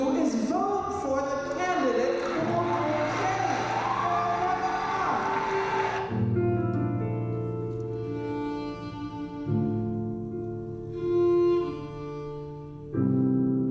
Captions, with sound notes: is vote for the candidate who wants change. (applause drowns out speaker) (soft violin music)